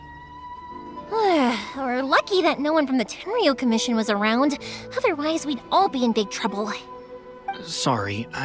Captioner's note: sigh